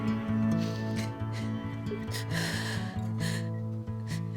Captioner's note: Ashley sobbing